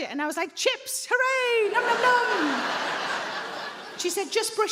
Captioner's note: audience laughing